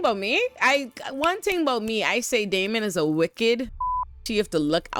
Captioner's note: beep